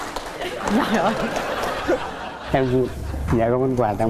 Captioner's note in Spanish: vítores; risas